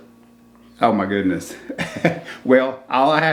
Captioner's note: chuckles